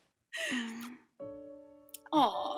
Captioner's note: soft piano music; kiss